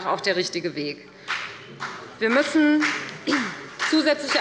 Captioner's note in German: Beifall bei der FDP